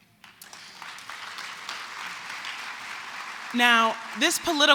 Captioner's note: applause